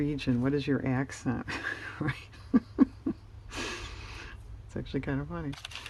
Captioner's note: laughs